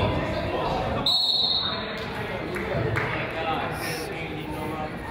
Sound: whistle blows

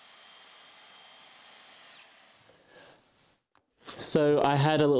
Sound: tool Noise

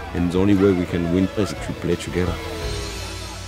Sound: team chanting

